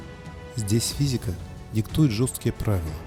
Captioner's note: foreign language